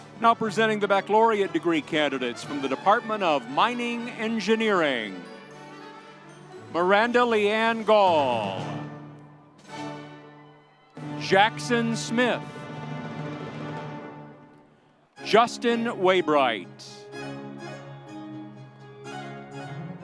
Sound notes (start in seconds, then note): 10.1 audience cheering; 13.5 audience cheering; 17.2 light music